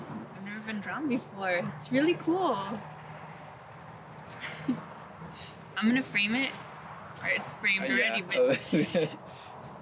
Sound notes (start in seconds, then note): 0.0 cars pass; 2.7 cars pass; 4.4 she giggles; 8.0 he laughs